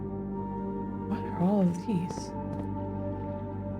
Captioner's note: quietly